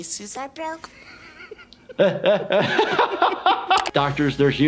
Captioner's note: laughing